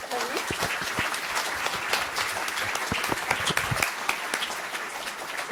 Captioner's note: audience applauding